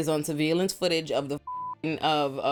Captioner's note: beep